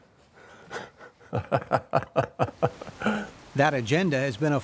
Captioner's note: chuckling